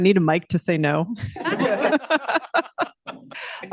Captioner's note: laughter